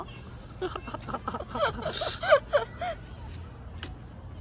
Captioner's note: laugh